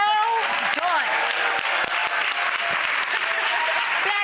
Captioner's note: applause